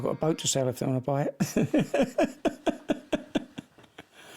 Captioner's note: chuckling